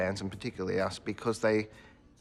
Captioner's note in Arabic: none